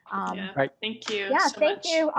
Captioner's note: group chatter